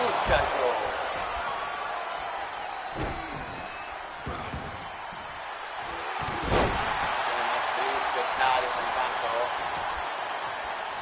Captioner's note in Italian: urlo